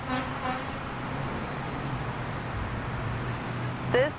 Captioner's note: traffic noise